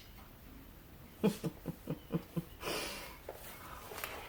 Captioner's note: chuckles